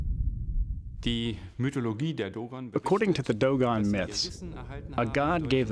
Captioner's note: non-english speech